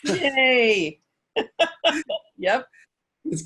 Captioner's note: laughter